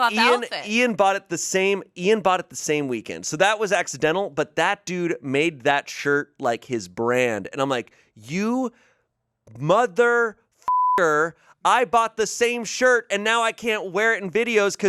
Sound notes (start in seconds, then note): 10.6 beep